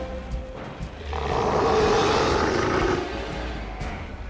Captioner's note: Eric growls